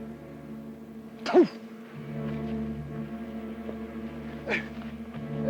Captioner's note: Red Hawk spits